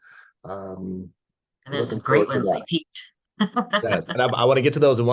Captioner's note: laughs